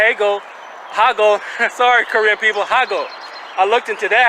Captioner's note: chuckling